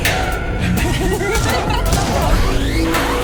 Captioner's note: the Duchess laughs